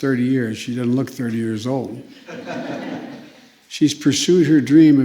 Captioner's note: laughter